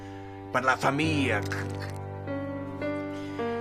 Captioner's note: crunch